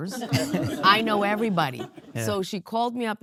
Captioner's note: audience lauging